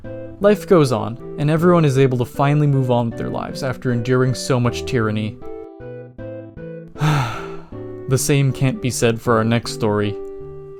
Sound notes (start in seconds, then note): 6.9 sigh